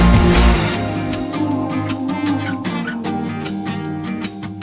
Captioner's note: group humming